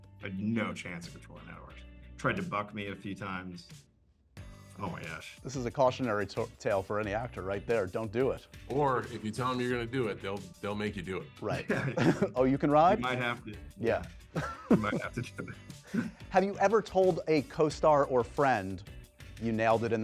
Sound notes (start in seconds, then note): 14.3 chuckles